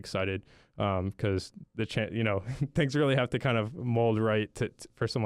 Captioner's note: chuckles